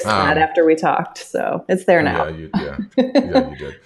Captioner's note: laughs